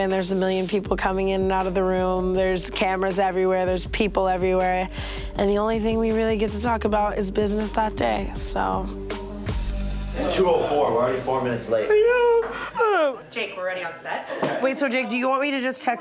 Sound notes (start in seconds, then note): 12.9 whines